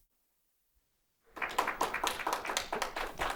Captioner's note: audience applauds